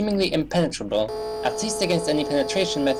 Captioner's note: laser beaming